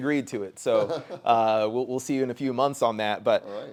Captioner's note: chuckles